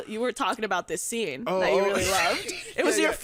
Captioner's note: laughs